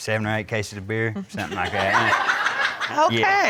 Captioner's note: crowd laughing